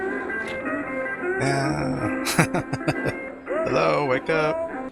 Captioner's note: chuckling